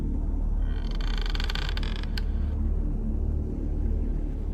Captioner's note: door creaks